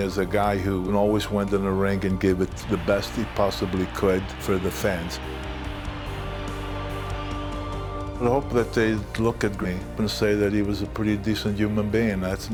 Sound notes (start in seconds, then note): 6.2 audience cheering; 6.2 bright music